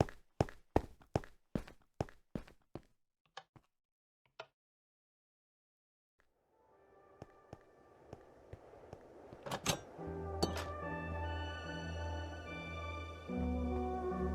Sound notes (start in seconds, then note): 10.0 wind gently blowing